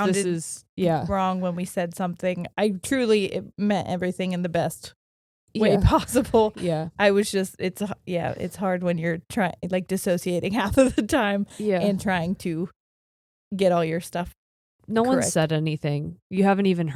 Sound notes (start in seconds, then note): 12.2 chuckles